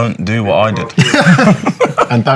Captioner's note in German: Lacht